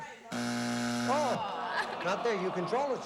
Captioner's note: buzzer